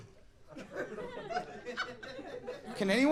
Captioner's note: audience laughing